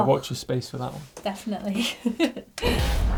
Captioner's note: laughs